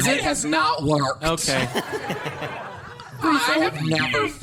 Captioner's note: audience and cast laughter